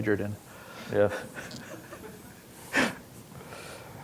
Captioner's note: laughing